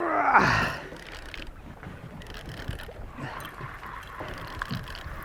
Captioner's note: fishing rod reeling